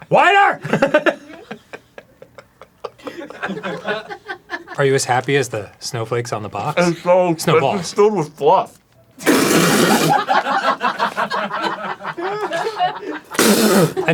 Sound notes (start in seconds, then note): 0.6 arin trying not to laugh; 9.3 loud explosive sputtering